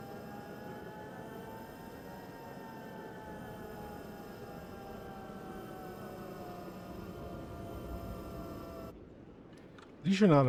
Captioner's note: hums